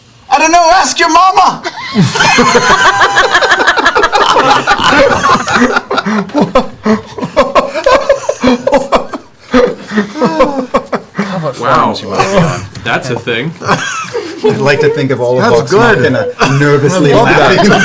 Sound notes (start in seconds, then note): 1.6 laughter